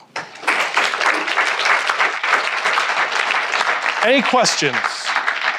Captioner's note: attendees applauding